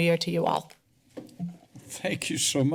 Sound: soft tap sound

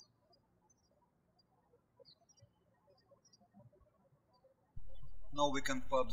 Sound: birds chirping

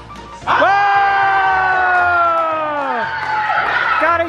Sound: group cheers

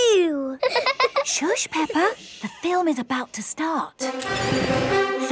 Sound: both laughing; heroic music

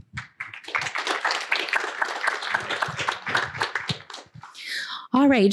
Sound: applause

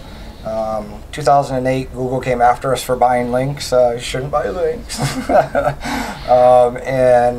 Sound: laugh

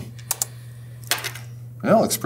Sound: keyboard clicking

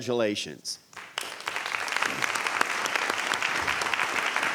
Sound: audience applauds

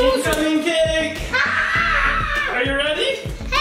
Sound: screams

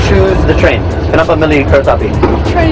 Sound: speaking indonesian

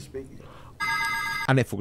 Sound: phone ringing

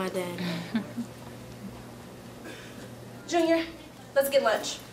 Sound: laughs

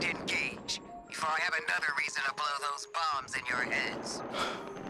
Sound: voice on radio

